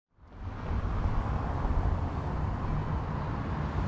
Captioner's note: cars humming